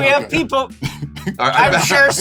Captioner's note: laughter